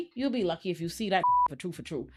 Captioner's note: beep